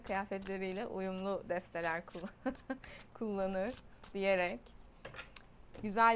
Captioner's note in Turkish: kahkaha